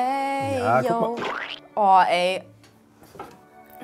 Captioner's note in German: Pflatsch